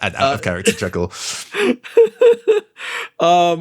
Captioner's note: laughs